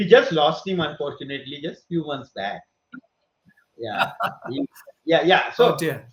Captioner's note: laughs